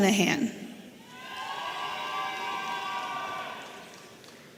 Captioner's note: audience cheering